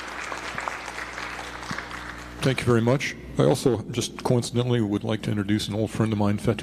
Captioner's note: applause